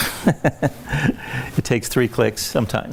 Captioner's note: laughs